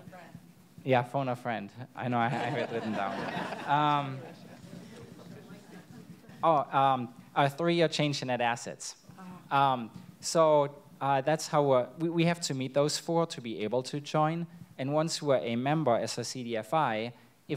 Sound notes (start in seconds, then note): 2.2 audience laughs